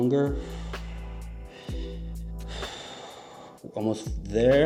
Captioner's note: breathing deeply